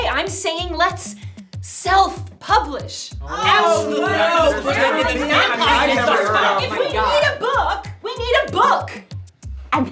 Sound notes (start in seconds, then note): 3.2 everyone shouting